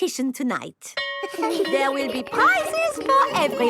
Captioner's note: school bell rings